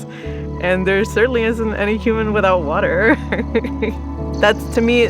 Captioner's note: laughs